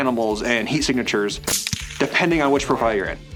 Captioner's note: gunshot